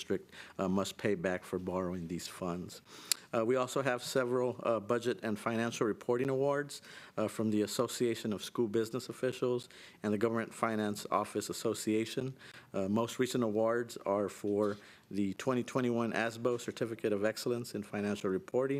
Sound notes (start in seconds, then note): none